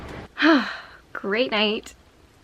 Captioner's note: sigh